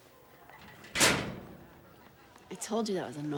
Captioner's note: locker slams